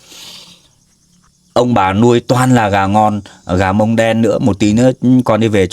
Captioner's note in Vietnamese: khịt mũi